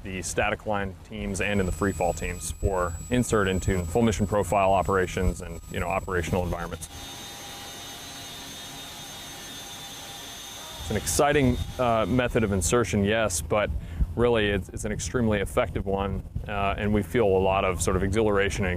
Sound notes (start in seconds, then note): 7.2 helicopter hums